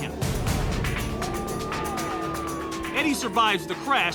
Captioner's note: siren wails